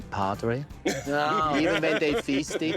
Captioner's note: laughter